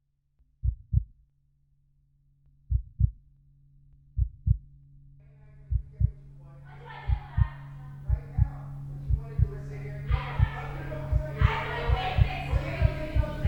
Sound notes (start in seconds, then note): 0.6 heartbeat; 4.1 heartbeat continues